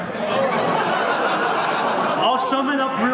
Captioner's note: audience laughs